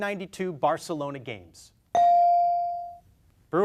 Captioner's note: beep